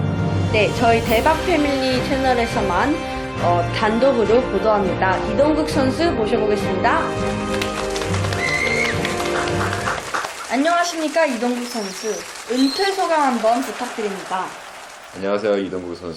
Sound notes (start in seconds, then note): 7.4 clapping